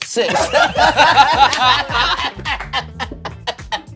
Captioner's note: everyone laughs